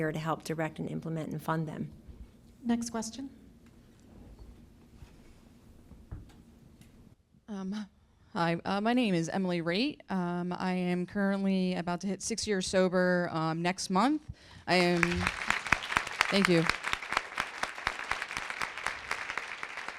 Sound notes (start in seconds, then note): 14.7 applause